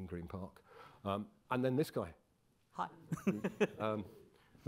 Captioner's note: laughs